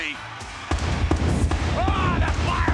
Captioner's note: fireworks booming